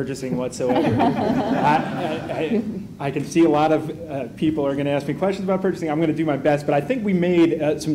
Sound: laughter

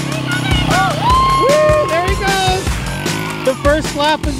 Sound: cheering

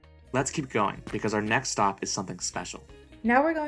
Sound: footsteps

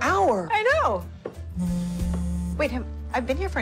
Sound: phone vibrating

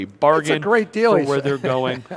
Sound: laughing

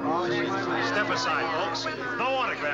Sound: everybody grumbling

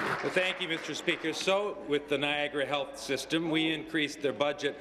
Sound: applause

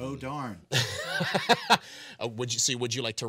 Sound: laughing

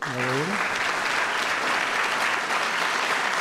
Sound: applause

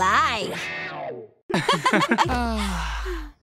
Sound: laughing

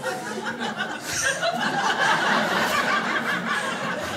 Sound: crowd laughs

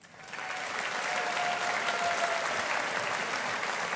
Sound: audience applauding

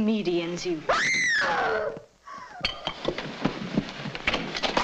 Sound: woman screams nearby

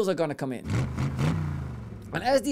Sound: engine revving

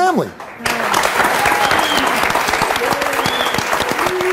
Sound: audience applauds

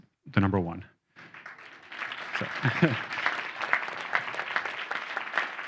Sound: audience applauding

